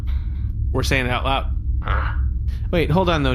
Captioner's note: Nermut huffs in frustration